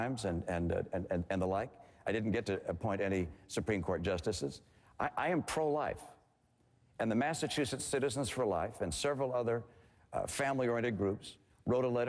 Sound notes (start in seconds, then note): none